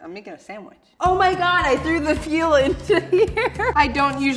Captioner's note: laughing